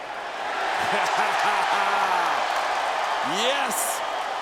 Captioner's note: JBL laughs